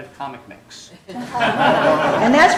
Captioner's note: laughter